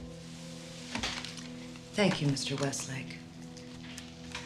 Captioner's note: clicks tape recorder